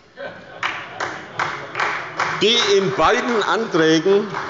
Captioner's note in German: Beifall bei Abgeordneten der SPD